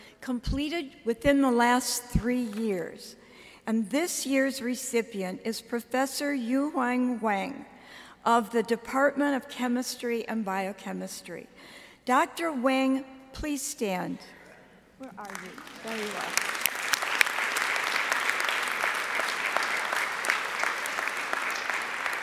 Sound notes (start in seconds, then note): 17.6 audience applauding